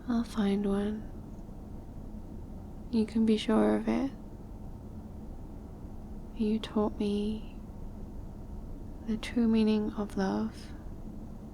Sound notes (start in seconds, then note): none